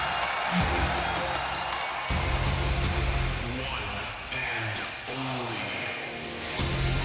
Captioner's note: cheers and applause